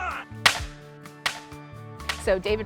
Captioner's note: weapons firing